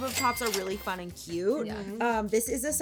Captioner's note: cash register chiming